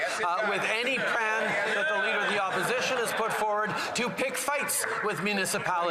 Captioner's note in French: voix de l'interprète